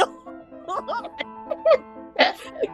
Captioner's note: cracking up